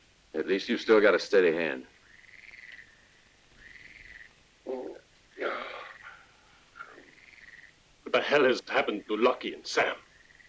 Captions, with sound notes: - At least you've still got a steady hand. (frogs croaking) - What the hell has happened to Lucky and Sam?